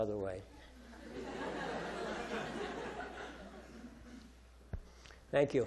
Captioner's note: audience laughing